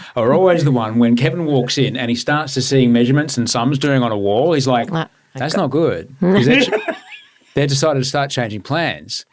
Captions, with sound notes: are always the one when Kevin walks in, and he starts to see measurements, and some is doing on a wall, he's like, that's not good. (laughing) They decided to start changing plans,